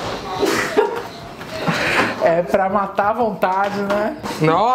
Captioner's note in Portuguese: risos